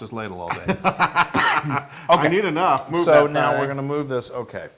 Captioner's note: laugh